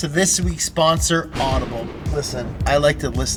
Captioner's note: thunder cracks